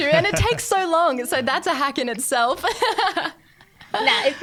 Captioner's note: laughing